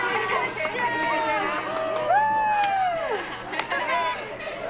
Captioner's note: students cheer